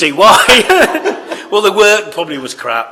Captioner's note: laughter